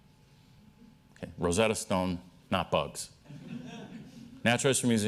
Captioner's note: laughter